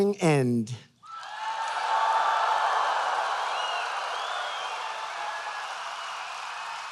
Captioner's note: applause